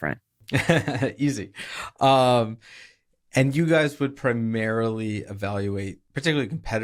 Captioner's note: laughs